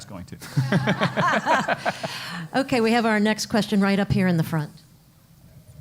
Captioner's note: laugh